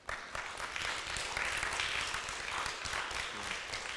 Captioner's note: audience applauds